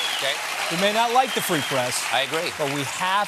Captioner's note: applause